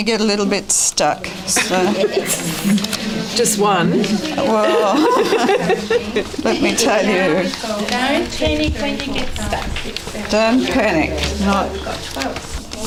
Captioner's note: audience chatter